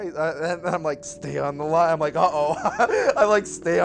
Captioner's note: laughs